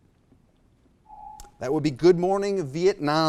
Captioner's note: alarm echoes